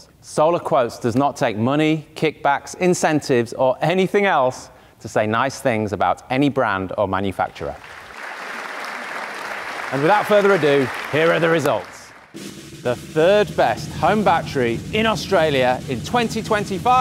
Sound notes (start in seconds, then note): 7.7 audience applauding; 12.3 drum roll